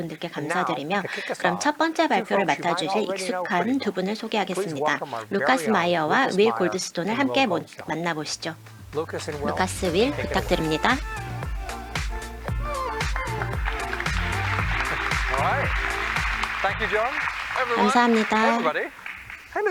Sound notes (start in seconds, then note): 11.3 electronic music playing; 12.4 applause